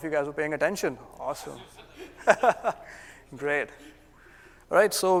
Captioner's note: laugh